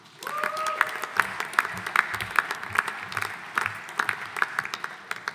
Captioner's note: audience applauding